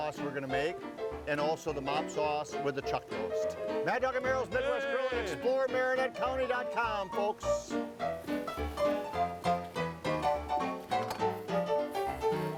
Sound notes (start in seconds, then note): 4.0 cheering; 6.2 cheerful ragtime piano music